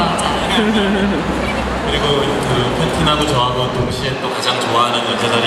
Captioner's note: speaking Korean